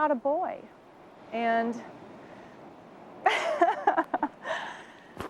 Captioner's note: laughs